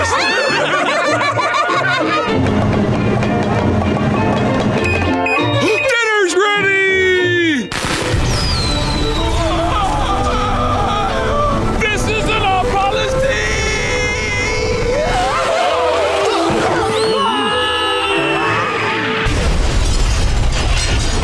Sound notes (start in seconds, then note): 0.0 laughing; 2.4 loud rumbling; 4.8 high-pitched beeping; 8.6 screaming; 16.8 manager screaming